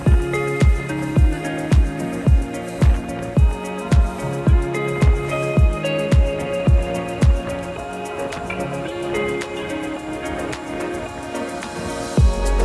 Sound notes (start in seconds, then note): 0.9 footsteps; 0.9 water splashing